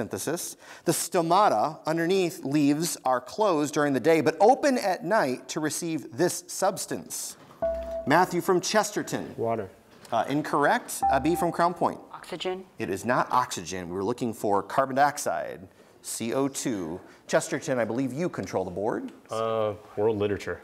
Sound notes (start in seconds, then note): 7.6 buzzer beeps; 11.0 buzzer beeps